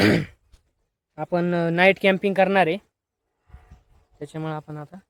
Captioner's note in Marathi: घसा साफ करणे